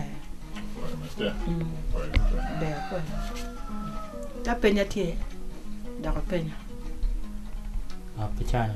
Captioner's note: man speaks